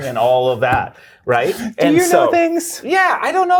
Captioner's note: laughing